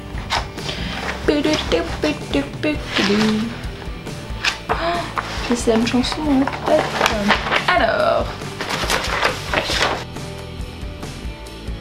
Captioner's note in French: Bruits de feuilles qui se tournent; Chantonne